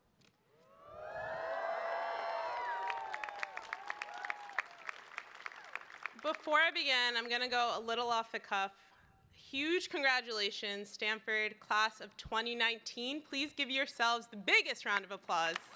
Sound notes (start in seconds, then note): 0.7 cheering